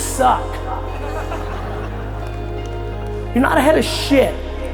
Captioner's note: audience laughs